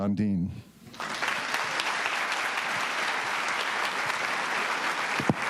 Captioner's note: audience applauding